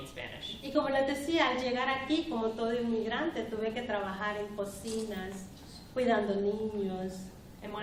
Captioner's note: speaking spanish